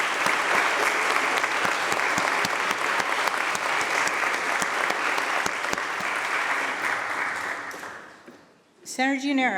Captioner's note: applause